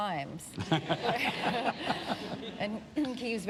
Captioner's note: laughter